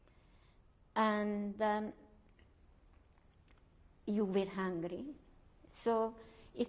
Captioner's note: pauses for 3 seconds